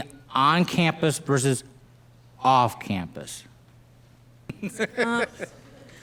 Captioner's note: laughs